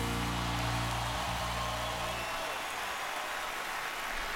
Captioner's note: crowd cheering